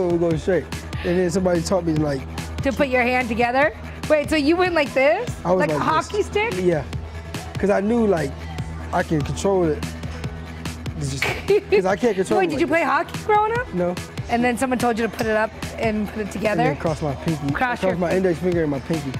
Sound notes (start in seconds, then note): 11.2 laughter